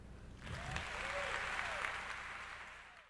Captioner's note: crowd cheers